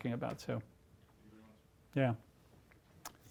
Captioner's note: speaking softly